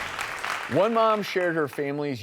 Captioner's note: applause